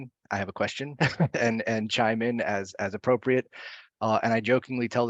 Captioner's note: laughs